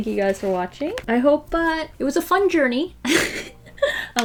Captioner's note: laughs